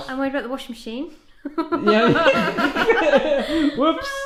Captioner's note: laughing